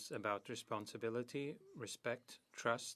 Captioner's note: speaking French